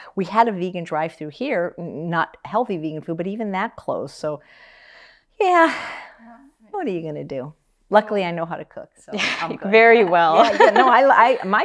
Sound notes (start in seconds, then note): 5.0 sighs; 10.3 laughs